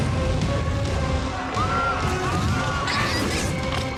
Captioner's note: screaming